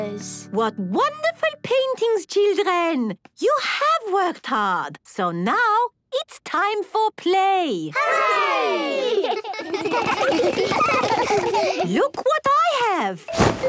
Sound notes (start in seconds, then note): 8.9 laughter